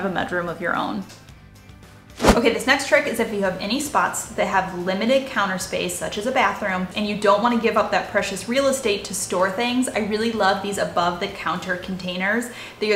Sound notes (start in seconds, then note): 2.1 air whooshing